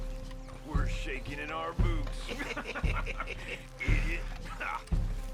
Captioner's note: laughs among with others